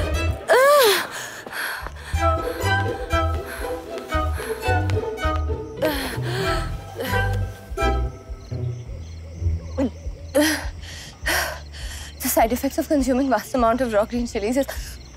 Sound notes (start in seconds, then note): 2.5 Footsteps